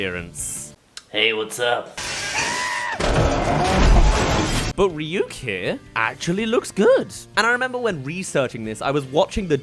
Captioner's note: screams